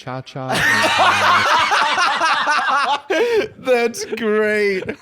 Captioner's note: both laughing